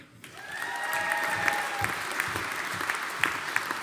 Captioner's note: audience applauding